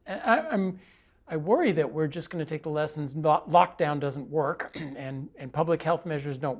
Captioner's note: cough; cough